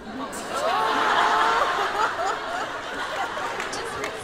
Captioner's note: laughter